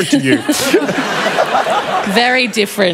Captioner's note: laughter